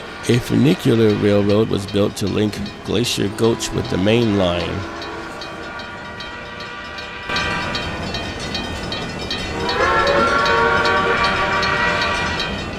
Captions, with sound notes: A funicular railroad was built to link Glacier Gulch with the mainline. [NH I5 Whistle]